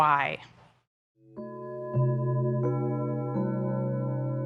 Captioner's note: bells chiming